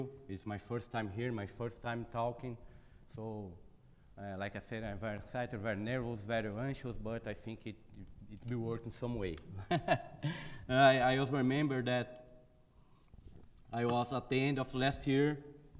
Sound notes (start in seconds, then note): 9.5 chuckles